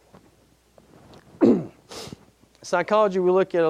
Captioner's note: clearing throat